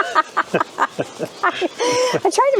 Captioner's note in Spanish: Risas